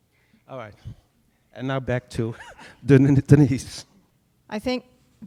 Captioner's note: laughs